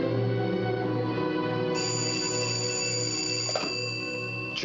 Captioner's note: telephone rings